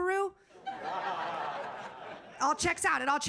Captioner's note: audience laughing